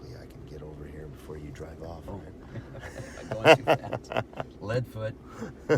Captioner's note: laughs